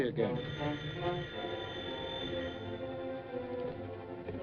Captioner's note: phone ringing